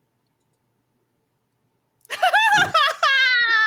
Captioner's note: laughs